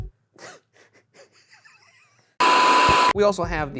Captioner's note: laughs